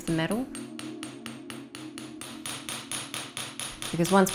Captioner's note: metal clanging